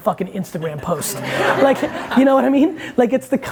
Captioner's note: audience laughing